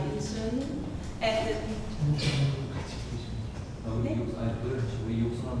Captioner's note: speaking in foreign language